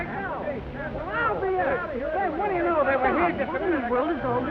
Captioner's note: newspapermen chatter